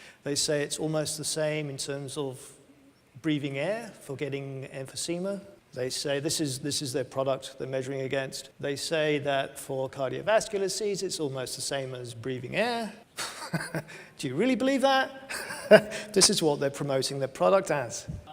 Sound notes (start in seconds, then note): 13.2 laughs